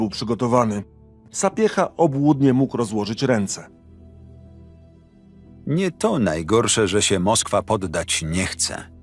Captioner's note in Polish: Lektor